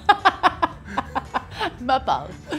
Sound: laughs

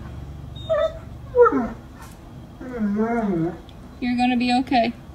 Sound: dog whining

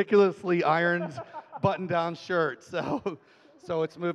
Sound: laughing

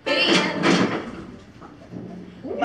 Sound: crash backstage

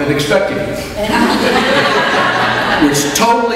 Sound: audience laughs

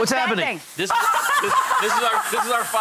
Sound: laughing

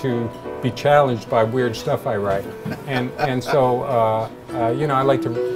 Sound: laughter

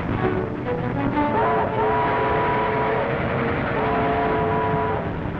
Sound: train horn howling

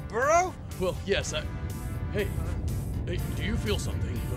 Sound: earth rumbling

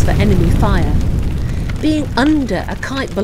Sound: sound of explosion

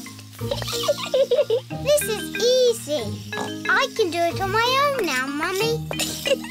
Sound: giggles; snorts; giggles

